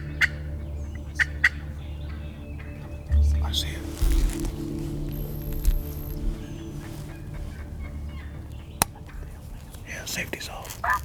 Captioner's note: whispering